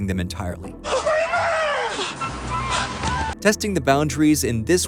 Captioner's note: yelling